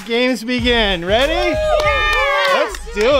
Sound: everybody cheers

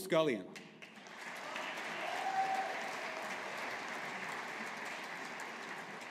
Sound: audience applauding

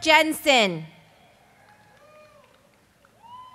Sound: cheers and applause

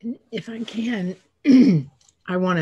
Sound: clearing throat

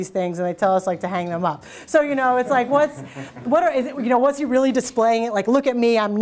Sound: audience chuckles

